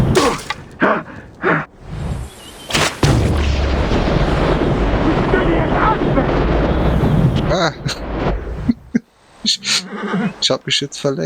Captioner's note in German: gelächter